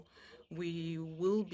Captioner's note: speaking French